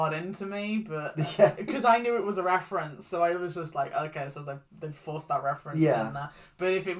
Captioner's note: laughs